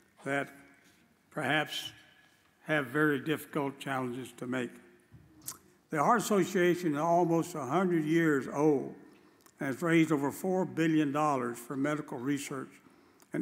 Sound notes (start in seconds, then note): none